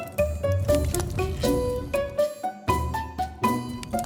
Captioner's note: fire crackling